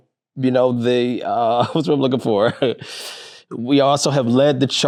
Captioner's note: chuckling